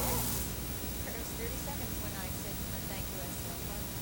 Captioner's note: chatter